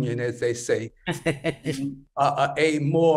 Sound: laughs

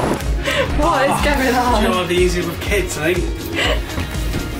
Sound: laughing

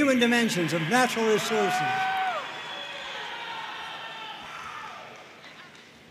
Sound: audience cheering and applauding

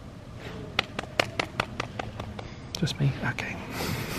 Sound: clapping

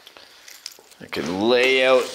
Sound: metal jingling

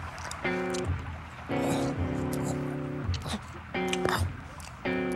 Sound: chewing

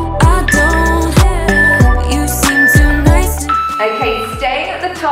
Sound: alarm beeping

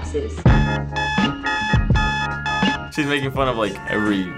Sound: alarm clock beeping

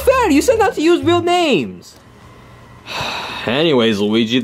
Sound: sighs

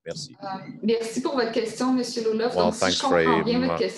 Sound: speaking in French

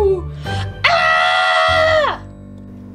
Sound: all Yelling

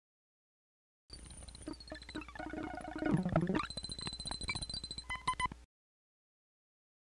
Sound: sound of digital puking

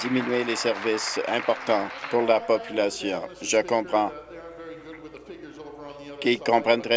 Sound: applause

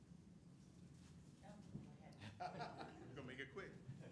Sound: people laughing

